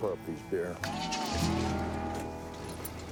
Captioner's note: engine starts